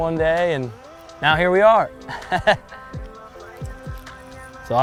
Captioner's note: laughs